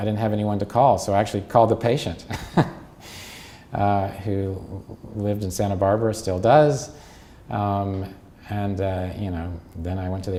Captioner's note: chuckles